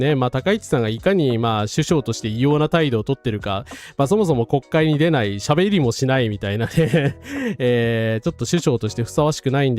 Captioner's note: laughs